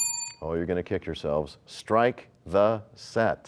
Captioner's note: bell rings, time expires